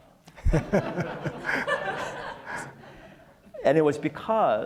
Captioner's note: audience laughs